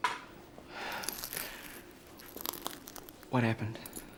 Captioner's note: Bray sighs